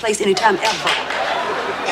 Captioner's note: laughter